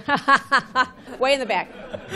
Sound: laughter

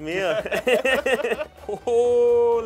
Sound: both laugh

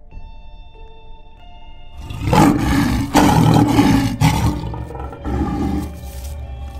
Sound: Saber Tooth growling

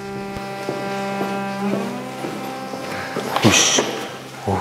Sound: very fast steps

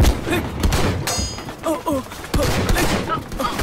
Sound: gunshot

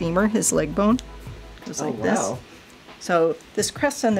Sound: voiceover

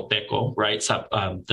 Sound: speaking Native Language

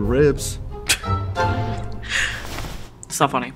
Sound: Lucy laughs

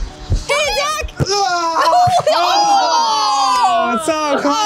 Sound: sounds of disappointment

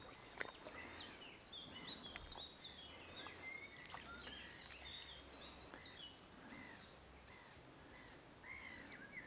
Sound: birds chirping

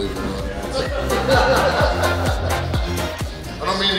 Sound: hahaha

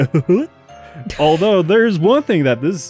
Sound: wheezes

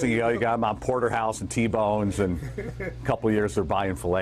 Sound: laughter

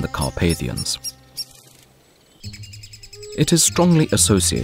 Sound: sounds of nature

